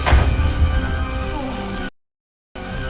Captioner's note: dramatic music; snake hissing